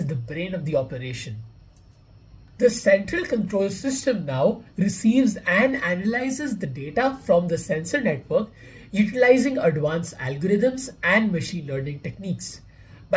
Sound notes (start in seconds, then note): 1.3 voice-over